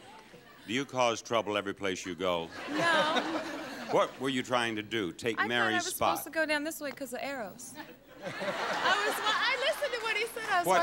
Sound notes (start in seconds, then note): 2.0 audience laughing; 7.9 audience laughing